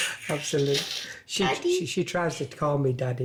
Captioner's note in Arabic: يضحك